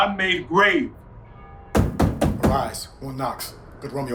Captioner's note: knocks on door